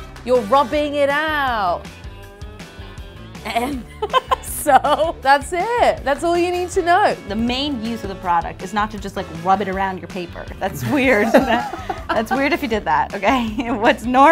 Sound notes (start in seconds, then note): 3.4 laughs; 10.7 laughs